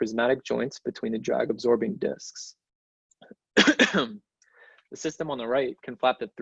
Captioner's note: coughs